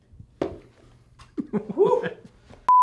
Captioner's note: cameraman giggling